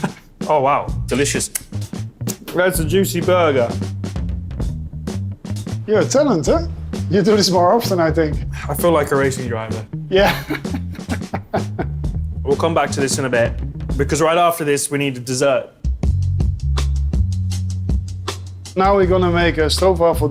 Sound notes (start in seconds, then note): 10.2 laughing